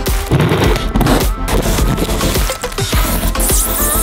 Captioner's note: cutting noise